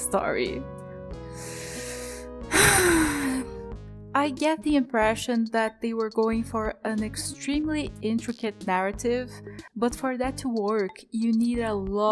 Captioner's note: sigh